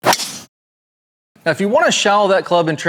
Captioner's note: golf ball flying